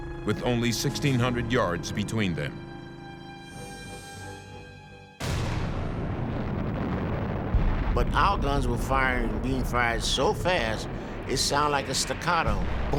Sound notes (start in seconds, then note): 5.0 boom